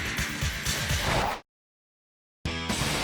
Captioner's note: upbeat music; logo swooshing; upbeat music